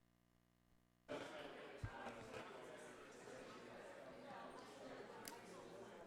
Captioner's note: attendees chattering